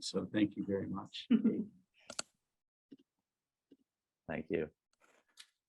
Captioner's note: laughs